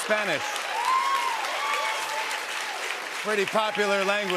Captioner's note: cheers and applause